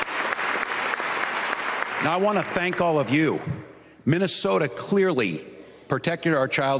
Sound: applause

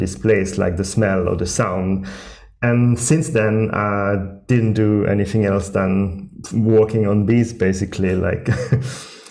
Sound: laughing

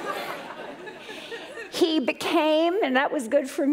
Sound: laughter

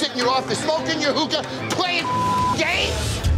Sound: beep

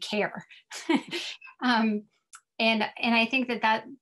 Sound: laughs

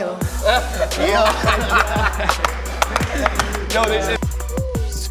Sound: laughter

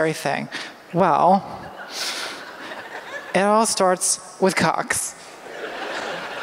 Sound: laughter

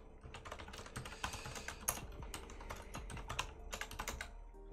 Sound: keyboard clattering

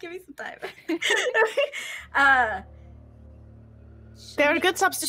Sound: both players laughing

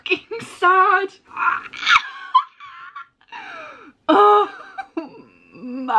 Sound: weird pterodactyl noises

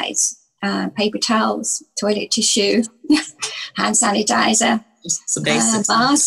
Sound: chuckles

